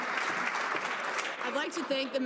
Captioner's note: some Applause